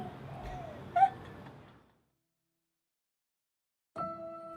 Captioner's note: laughing